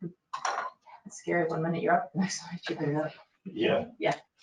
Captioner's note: speaking faintly